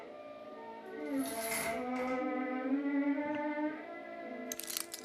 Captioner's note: chains rattling